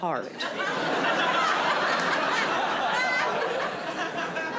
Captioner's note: audience laughing